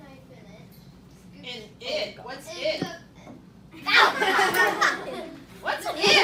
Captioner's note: laughter; oh, laughter